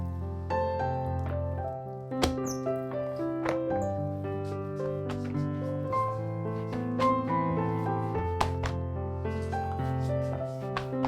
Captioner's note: folding